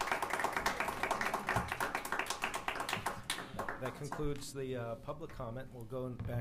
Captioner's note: applause